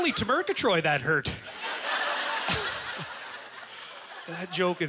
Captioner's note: audience laughter